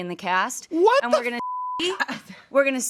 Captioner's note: beep